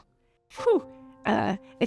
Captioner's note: woman sighs